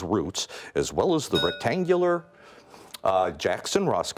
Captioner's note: bell rings